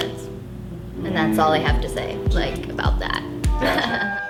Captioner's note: chuckles